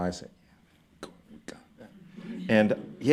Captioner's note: speaking softly